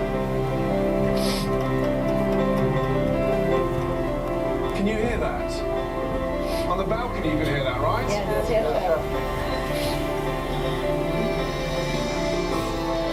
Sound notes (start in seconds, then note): 1.2 woman sniffling